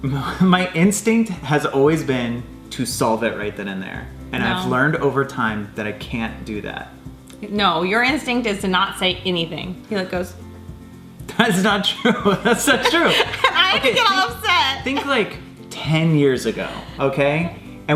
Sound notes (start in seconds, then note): 12.0 laughing